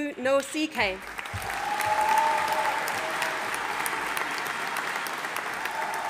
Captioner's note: audience applauding